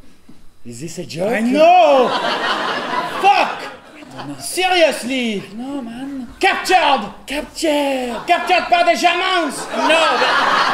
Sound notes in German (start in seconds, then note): 1.4 Französischer Akzent